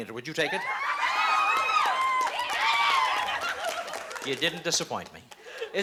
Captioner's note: cheering